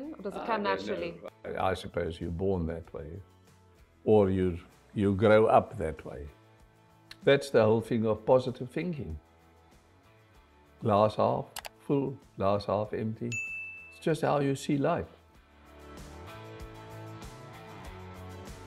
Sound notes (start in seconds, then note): 13.3 bell ringing; 15.1 upbeat music continues